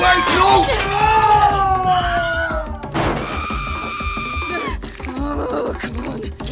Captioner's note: glass shatters; Emily grunts